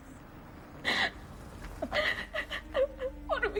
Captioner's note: Louise crying